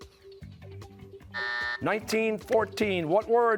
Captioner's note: buzzer